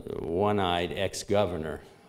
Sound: none

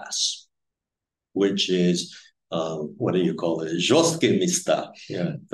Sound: speaking Russian

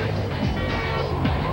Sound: honk from car speeding away

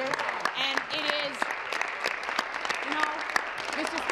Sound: applause

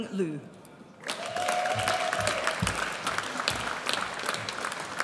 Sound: audience cheers

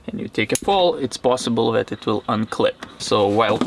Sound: none

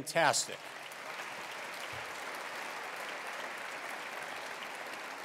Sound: attendees applauding

